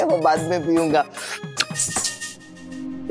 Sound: lips smacking

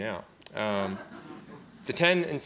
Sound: audience laughs

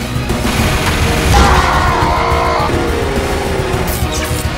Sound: Heavy screams in pain

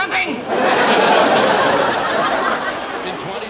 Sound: audience laughing

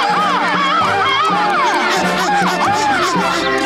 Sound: squawking; panting

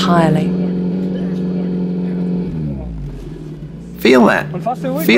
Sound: engine sound

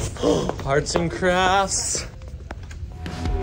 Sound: gasps

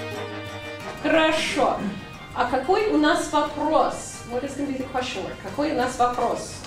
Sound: teacher speaking in Russian

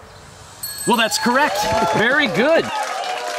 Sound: dinging and cheering

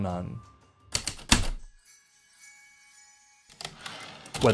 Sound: heavy typewriter keystrokes, light chimes, typewriter return slide

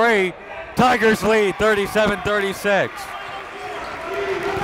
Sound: cheering

